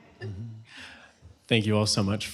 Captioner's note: laughter